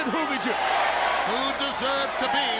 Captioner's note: crowd cheering